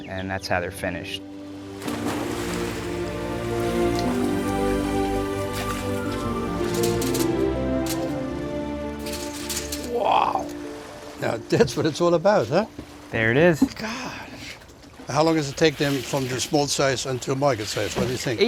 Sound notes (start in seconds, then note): 7.1 cages rattling